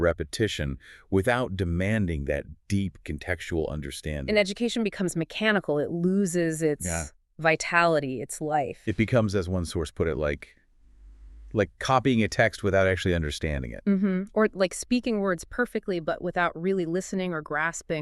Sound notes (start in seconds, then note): 8.3 mechanized